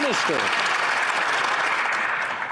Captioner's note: some Applause